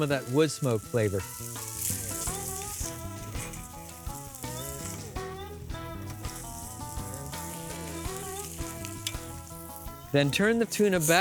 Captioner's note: sizzling